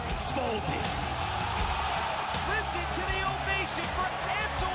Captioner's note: crowd cheering